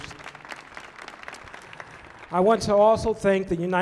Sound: audience applauding

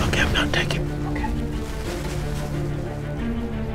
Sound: whispering

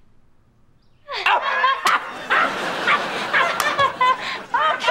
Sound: laughing

